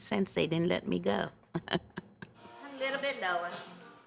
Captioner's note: laughs